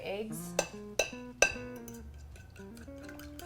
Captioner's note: fork clanging; bright jazz music